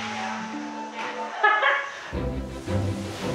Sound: woman laughing; joyful music

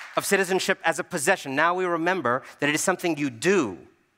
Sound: applause

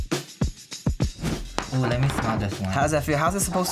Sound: intense hip-hop music; air whooshes

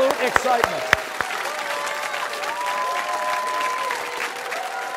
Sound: cheers and applause

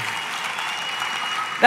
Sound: congregants applauds

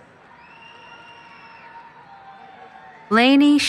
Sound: cheering

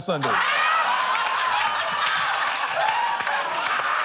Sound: laughter

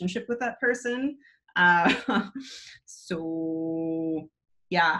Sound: chuckles

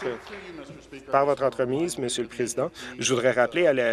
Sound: applause

